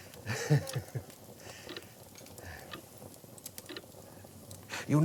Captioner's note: ticking clock